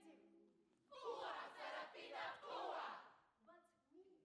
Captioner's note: students chant